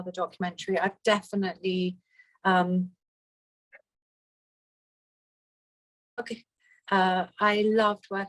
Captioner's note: audio drops